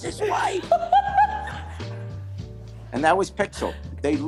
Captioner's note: laughs